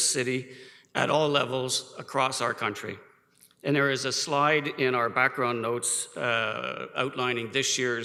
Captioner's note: none